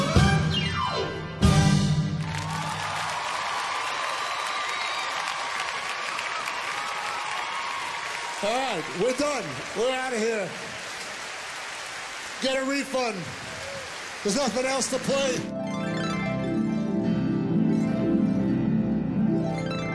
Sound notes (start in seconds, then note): 2.6 audience applauds and cheers